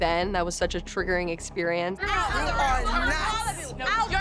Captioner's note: overlapping chatter